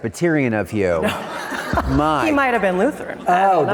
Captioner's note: audience laughing